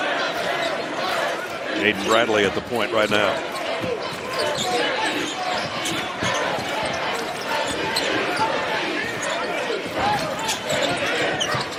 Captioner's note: cheering